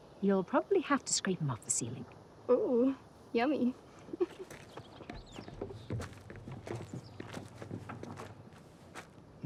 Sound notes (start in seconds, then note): 4.0 chuckles